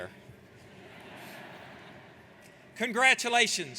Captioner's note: laughing